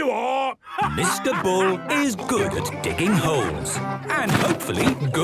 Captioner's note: laughing